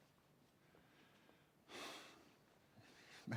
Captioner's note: sighs